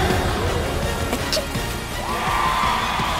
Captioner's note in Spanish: estornuda; público anima y aplaude